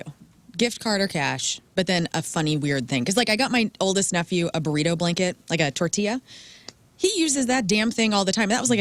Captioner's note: none